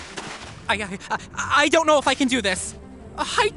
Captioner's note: stammers